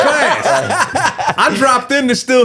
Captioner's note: all laughing